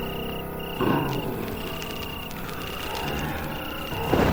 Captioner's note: fire crackling